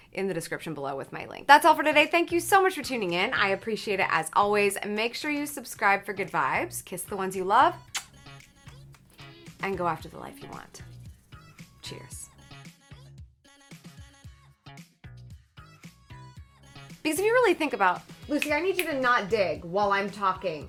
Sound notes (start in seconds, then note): 7.8 lips smack; 12.9 upbeat music; 18.3 snaps fingers